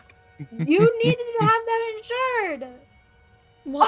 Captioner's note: low chuckle